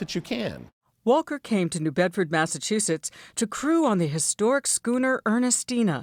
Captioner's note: voice-over